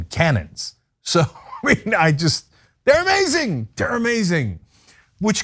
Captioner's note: laugh